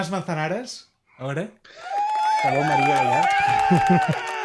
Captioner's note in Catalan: aplaudiments